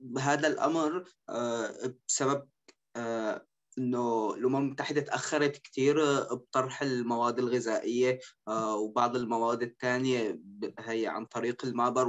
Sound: speaking in Arabic

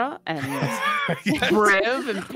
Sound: all laugh

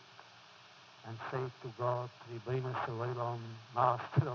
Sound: foreign language

